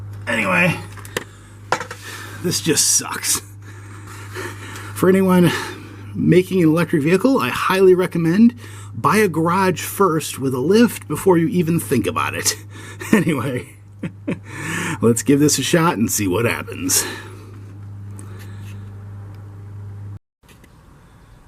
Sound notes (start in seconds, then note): 12.7 chuckles